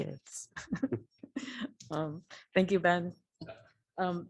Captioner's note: laughter